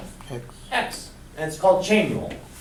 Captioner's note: voiceover